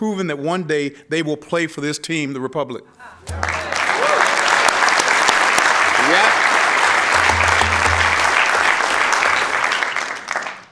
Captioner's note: applause